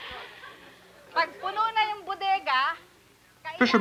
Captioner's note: laughter; speaking Spanish